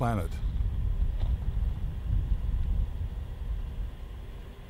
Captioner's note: yüksek sesli makineler